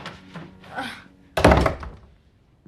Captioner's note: slGHS